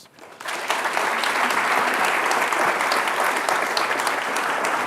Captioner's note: audience applauding